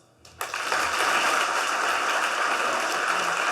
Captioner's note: applause